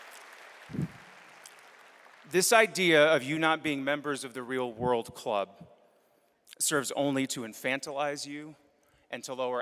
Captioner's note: applause